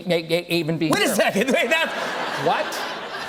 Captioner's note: laughter